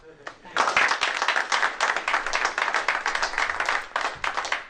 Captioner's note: applause